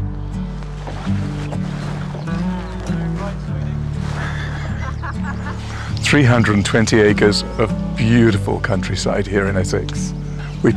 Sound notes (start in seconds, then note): 0.3 water splashes